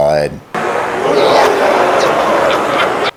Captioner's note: laughter